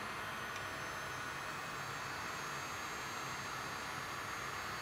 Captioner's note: heat gun whirring